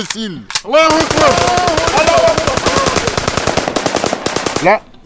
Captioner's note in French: tirs de kalachnikovs